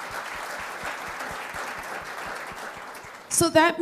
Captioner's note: applause